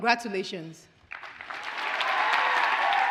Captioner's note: audience cheers and applauds